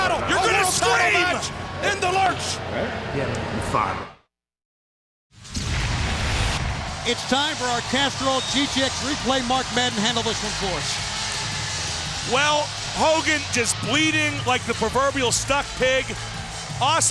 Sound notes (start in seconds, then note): 5.4 explosion blasting